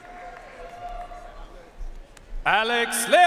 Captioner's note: audience cheering and applauding